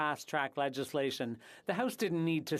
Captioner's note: speaking FRENCH